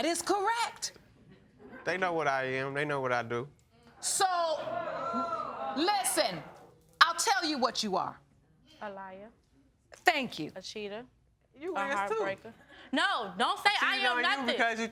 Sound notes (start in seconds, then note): 4.1 audience exclaims